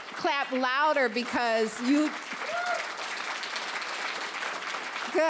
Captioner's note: applause